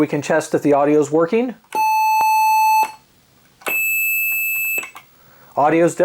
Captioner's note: loud Tones